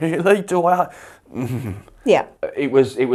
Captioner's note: grumbles